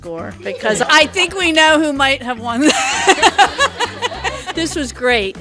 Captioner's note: laughing